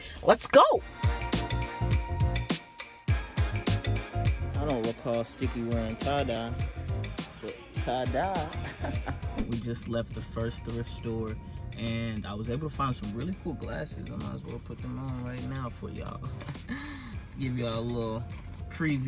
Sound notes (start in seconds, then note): 1.5 upbeat music; 8.6 laughs